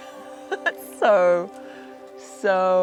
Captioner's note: giggling